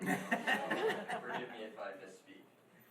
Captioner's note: laughing